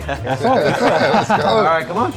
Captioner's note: laughter